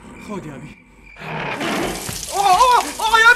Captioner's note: sound of oil being poured